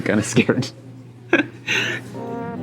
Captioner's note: chuckles